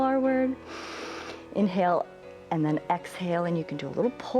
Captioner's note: inhales